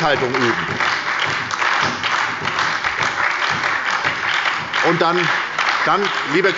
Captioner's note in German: Beifall bei der SPD